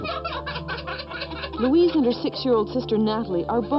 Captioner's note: laughing